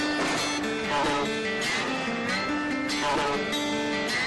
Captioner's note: voiceover